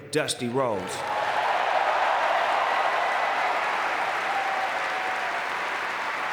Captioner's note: audience cheering and clapping